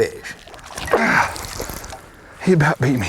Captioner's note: splashing